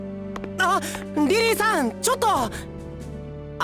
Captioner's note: gasp